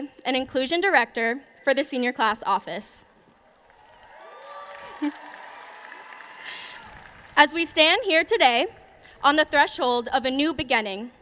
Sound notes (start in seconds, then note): 3.3 cheering